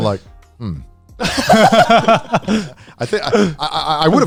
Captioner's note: all laughing